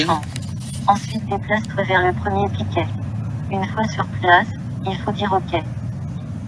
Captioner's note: woman continues speaking in foreign language